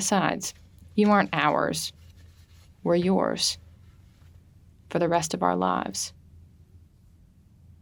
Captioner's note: none